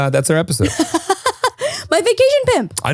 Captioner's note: laughing